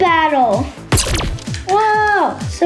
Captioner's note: robotic gun firing